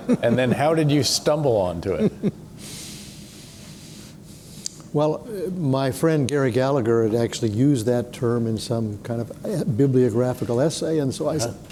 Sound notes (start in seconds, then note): 1.9 chuckles